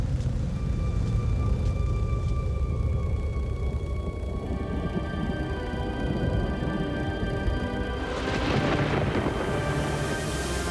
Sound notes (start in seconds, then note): 0.0 eerie music; 7.9 thunder